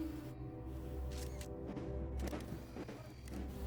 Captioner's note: camera shutters clicking